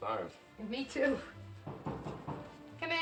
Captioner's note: knocking